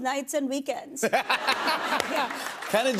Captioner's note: laughter